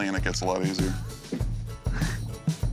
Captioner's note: chuckling